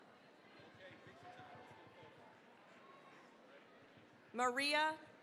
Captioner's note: cheering, applause